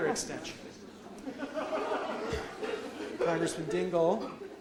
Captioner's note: audience laughs